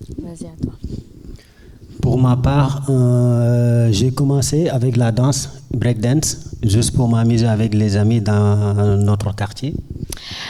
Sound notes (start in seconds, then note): 0.3 speaking in French